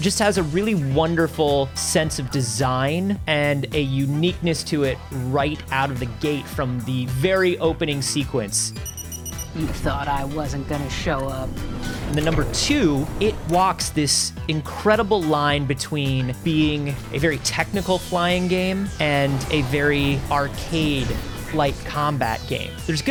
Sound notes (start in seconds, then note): 8.7 beeping